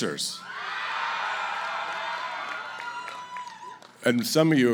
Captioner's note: cheering